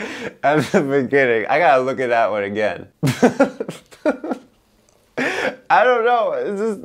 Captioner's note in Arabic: يضحك